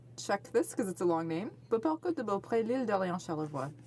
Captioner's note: speaking French